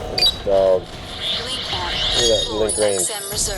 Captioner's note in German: Piepstöne